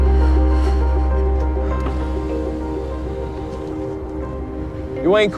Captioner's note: exhales softly